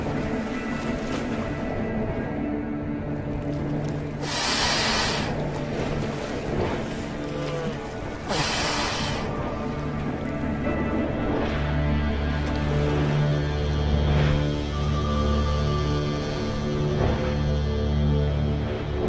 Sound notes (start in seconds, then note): 3.9 groaning; 3.9 hiss